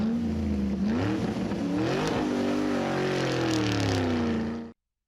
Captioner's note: sound of car revving